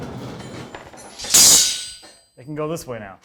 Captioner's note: metal clinks